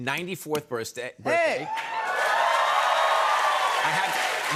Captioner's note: cheers and applause